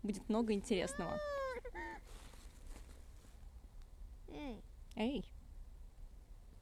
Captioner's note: grumbling of a child